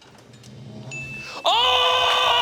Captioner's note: chime dings